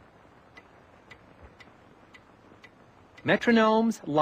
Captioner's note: ticking